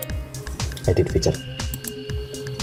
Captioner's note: click